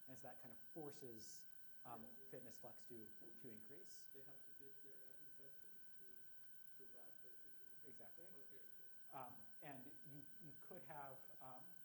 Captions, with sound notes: And so that kind of forces fitness flux to increase. (student faintly speaking) Exactly. And you could measure